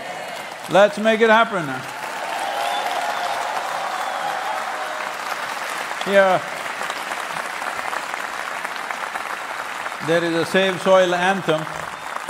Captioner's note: cheering/Applause